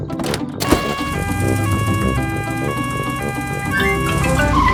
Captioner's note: siren wails